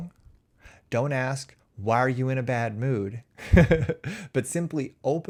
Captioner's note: chuckles